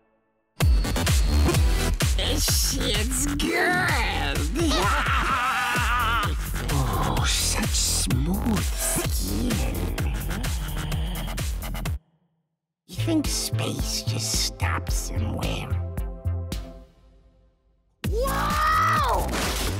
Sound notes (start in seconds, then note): 4.4 laughs